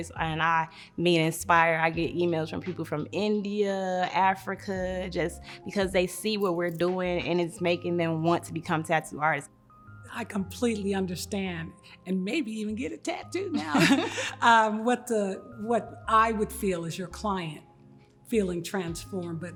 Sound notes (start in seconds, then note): 13.5 giggles